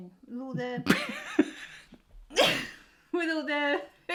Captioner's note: laughing